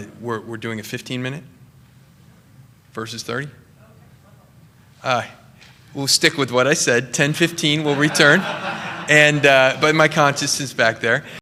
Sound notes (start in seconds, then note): 7.7 laughter